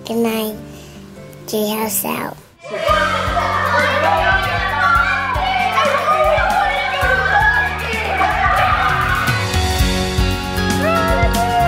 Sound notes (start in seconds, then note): 2.6 kids clamoring; 8.8 upbeat music